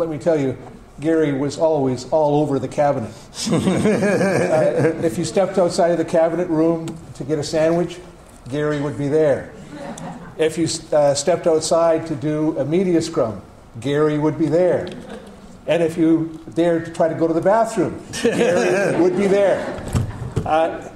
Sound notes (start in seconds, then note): 3.5 audience laughter